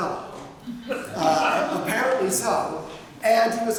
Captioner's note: laughter